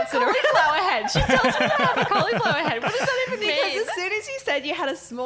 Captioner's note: laughing